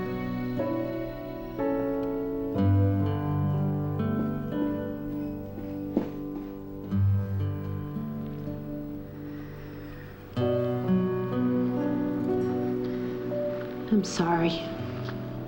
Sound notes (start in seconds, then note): none